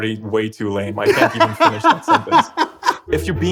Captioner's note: laughter